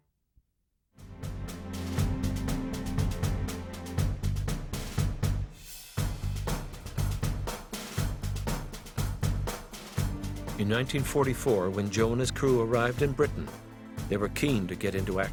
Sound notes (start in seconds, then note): 0.1 bright uptempo drumming music; 9.5 voiceover